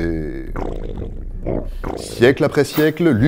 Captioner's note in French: bruit de défécation